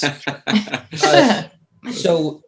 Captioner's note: laughs